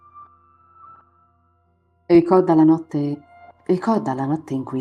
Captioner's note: starting with the wrong intonation